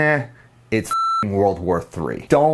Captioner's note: tone beeping